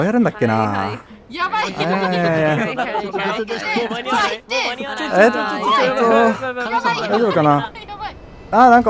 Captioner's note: crowd panics